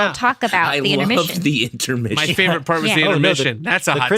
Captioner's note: laughter